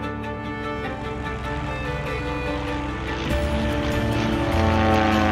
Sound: airplane engine rumbling

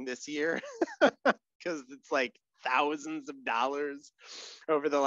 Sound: laughs

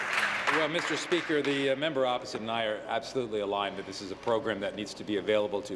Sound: applause

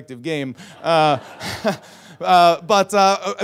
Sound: audience laughs

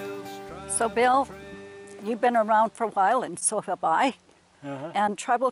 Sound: huh huh

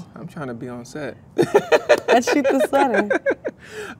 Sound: man laughs

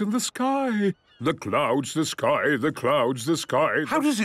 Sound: sing-sing voice

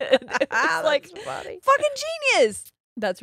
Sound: both laughing

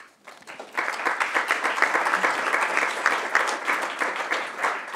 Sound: applause

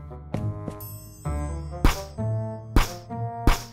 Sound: bell dings; poof

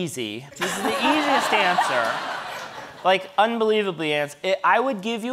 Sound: audience laughing

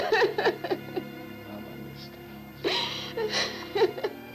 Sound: crying

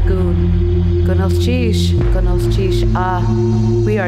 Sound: foreign speaking

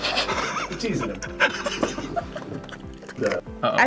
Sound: both laugh; laughs

